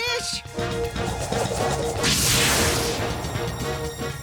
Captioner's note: flutter, boom